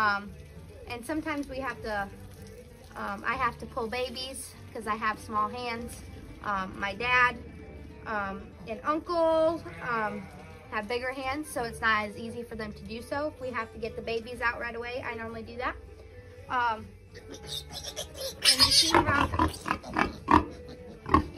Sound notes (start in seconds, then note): 17.1 piglet squealing; 19.9 sow snorting